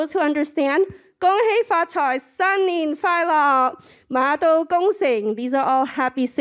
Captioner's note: speaking foreign language